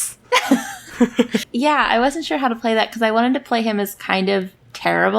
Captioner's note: laughs